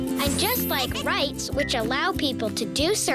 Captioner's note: tinkling noises